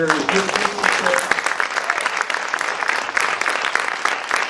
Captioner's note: applause